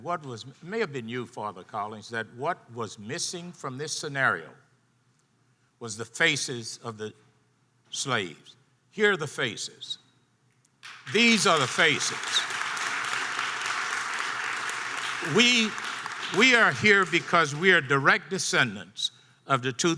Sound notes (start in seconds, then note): 12.9 audience applause